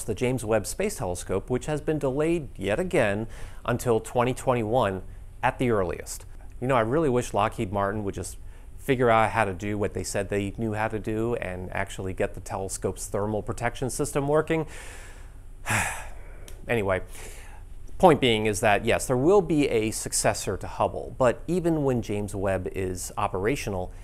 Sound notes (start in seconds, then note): 15.6 sighs